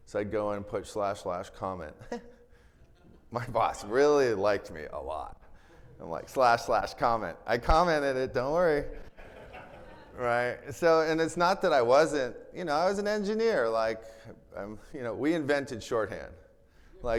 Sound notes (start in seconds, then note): 2.6 chuckles; 8.9 attendees laughing